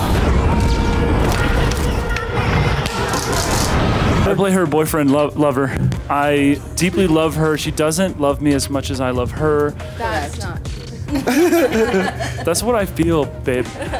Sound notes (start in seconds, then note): 0.3 suspenseful music; 11.1 laughter; 13.6 laughs